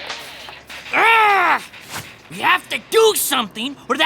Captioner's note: grunting